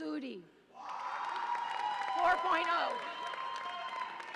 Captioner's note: audience applauds and cheers